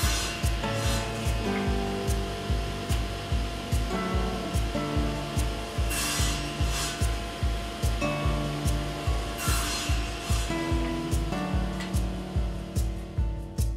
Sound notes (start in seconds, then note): 0.9 gentle music; 5.7 router buzzing